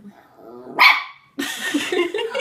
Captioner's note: bark